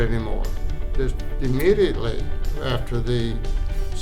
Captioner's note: snaps finger